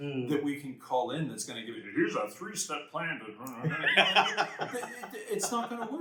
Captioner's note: laughter